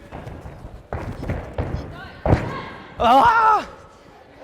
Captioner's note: feet thudding